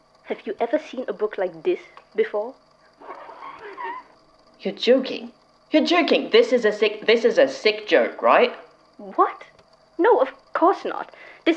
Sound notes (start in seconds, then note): 3.0 A long squeak of heavy, wet leather sliding across wood